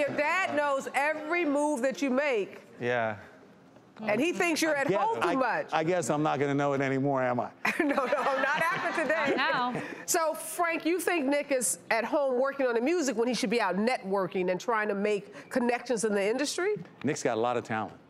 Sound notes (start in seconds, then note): 7.6 laughter